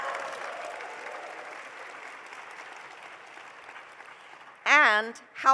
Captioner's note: applause